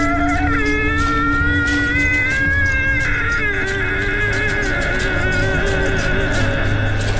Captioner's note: Scott moaning; wood cracking